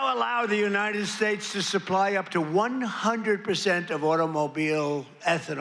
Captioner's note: applause